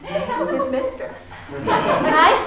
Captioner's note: crowd laughing